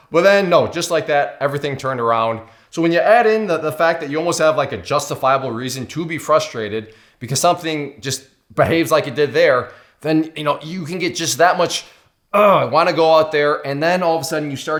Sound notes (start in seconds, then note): 12.3 groans